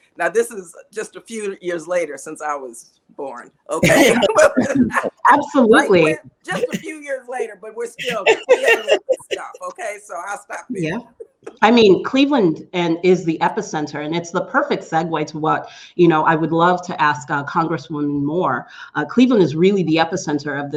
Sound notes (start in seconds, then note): 3.7 all laughing